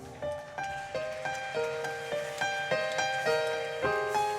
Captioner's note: audience clapping; gentle music